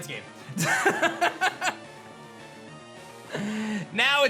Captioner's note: laughs